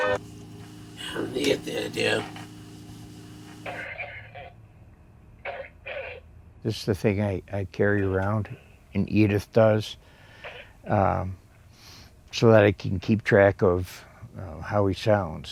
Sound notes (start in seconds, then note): 3.2 coughing on baby monitor